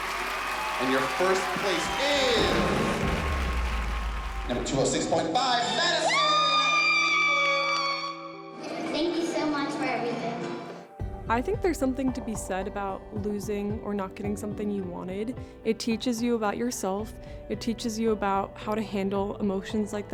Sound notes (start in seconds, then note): 5.6 screaming